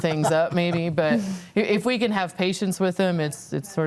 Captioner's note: laughs